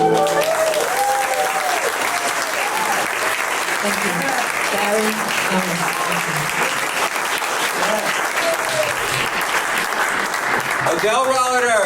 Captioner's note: applause